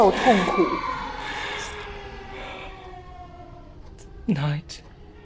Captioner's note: haunting children cries; Mandarin language